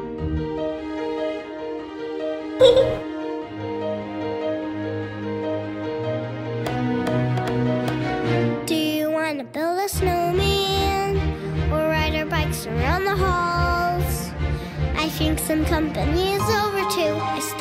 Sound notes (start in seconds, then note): 2.6 giggles; 6.8 knocking